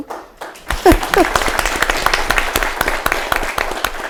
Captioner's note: audience applauding